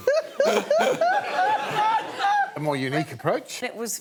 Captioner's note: laughing